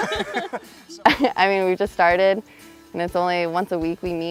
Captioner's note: laughter; laughs